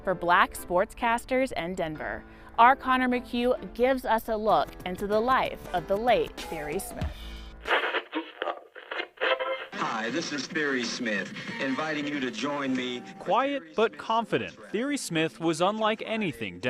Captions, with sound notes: FOR BLACK SPORTSCASTERS IN DENVER. OUR CONOR MCCUE GIVES US A LOOK INTO THE LIFE OF THE LATE THIERRY SMITH. [RADIO DIAL] HI, THIS IS THIERRY SMITH INVITING YOU TO JOIN ME QUIET, BUT CONFIDENT, THIERRY SMITH WAS UNLIKE ANYTHING